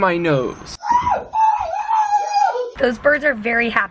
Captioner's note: screaming